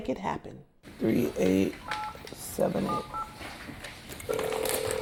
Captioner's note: phone dialing